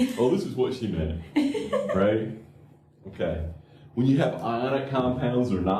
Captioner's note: laughter